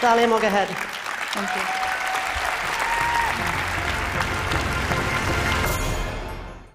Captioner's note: applause